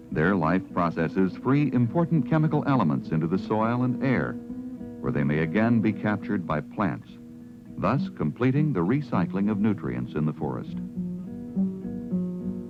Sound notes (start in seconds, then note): none